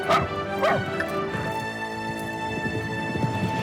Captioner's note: dog barking; horse neighing